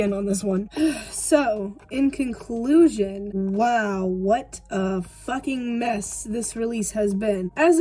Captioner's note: sigh